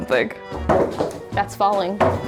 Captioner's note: shovel clatters